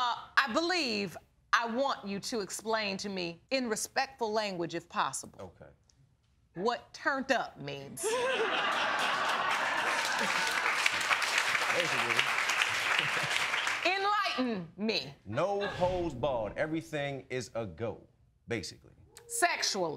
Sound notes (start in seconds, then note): 8.0 all laughing